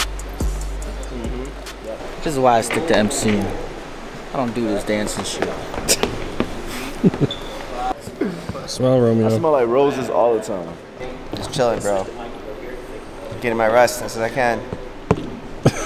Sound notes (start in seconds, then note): 6.6 chuckling